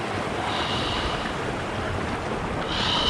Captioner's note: sighs